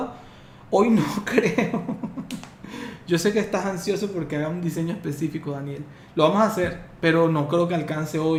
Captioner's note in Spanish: risas